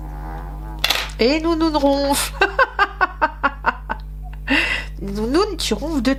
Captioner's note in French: rires